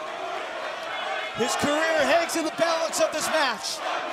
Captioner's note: crowd chatter